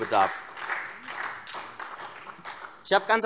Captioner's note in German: Beifall SPD